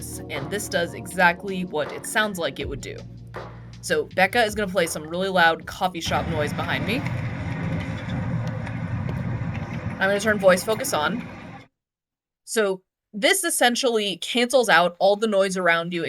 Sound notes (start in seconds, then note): 6.0 coffee shop noise